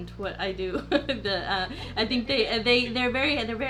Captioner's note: chuckles; stammering